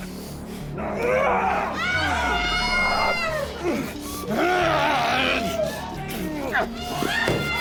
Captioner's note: people screaming; Alan groaning